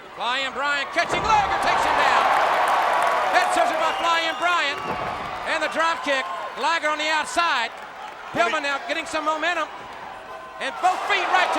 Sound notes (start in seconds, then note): 0.0 footsteps plodding; 1.0 body thudding; 1.9 crowd cheering; 4.8 blows thudding; 6.1 body thudding